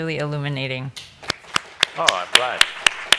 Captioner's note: applause